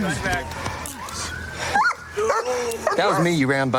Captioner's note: dog barks